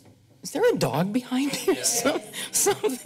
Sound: laughs

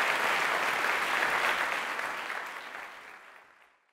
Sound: audience applauding

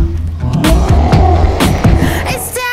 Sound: werewolf snarling

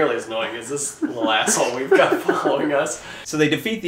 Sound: laughing

